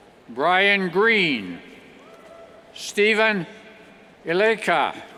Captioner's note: cheers